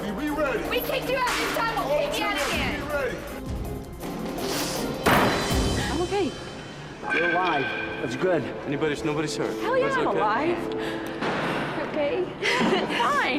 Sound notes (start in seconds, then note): 11.3 sighs